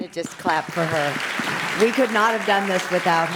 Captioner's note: audience applauds